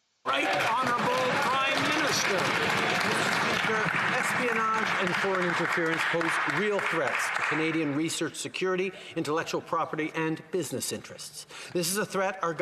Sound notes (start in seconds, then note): 8.2 some Applause